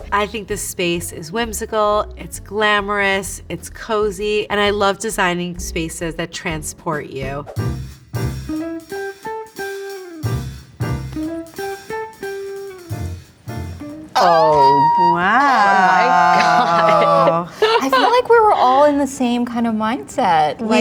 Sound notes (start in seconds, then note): 7.5 upbeat music; 16.7 everyone laughing